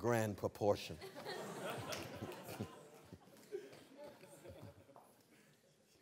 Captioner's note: laughter